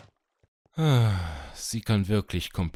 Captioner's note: sigh